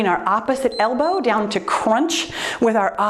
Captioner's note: timer beeps